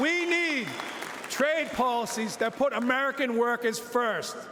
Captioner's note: cheering and Applause